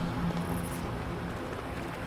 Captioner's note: water running